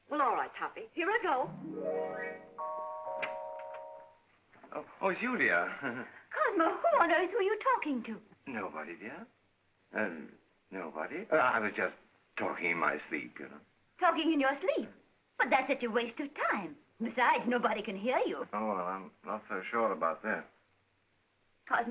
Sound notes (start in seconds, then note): 1.4 whimsical music; 3.2 door opens; 5.6 chuckles nervously